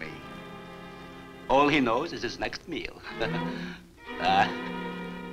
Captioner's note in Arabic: يضحك